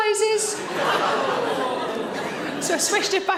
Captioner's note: audience groans